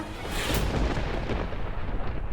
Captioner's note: thunder rumbling